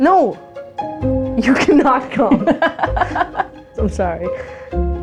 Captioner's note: laugh